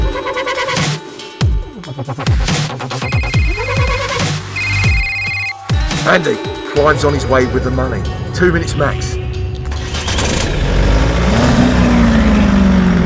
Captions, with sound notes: (phone ringing) - Andy, Clives on his way with the money. Two minutes max. (engine roaring)